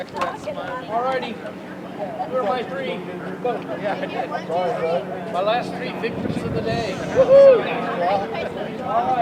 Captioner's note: chatter; helicopter sounds